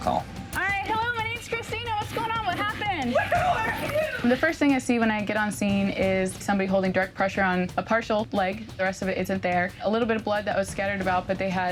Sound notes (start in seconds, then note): 3.2 mumbling yelling